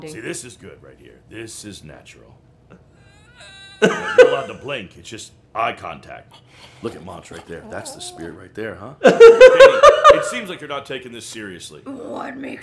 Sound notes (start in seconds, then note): 3.0 laughing; 3.2 squealing; 9.0 laughing